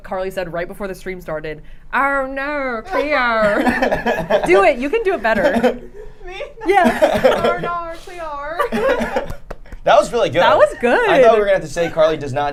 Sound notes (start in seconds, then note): 3.4 laughing; 8.4 group laughing